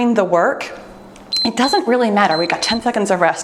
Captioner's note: timer beeps